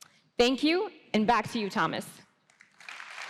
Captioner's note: applause